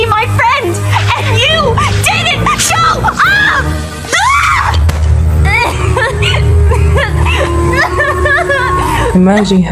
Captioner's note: cries in pain